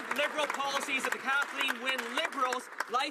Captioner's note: some Applause